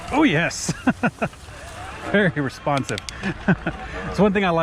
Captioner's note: laughs